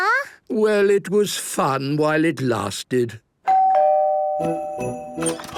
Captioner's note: doorbell ringing